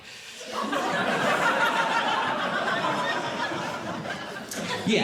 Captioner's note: audience Laughing